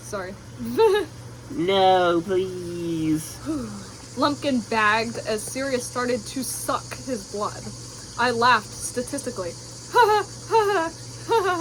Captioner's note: laffs statistically